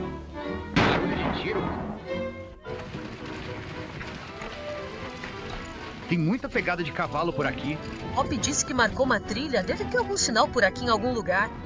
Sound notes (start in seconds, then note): 0.7 gunshot